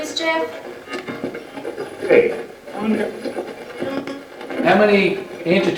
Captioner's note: radio channel changing